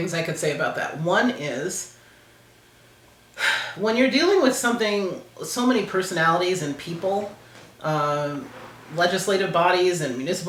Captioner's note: sigh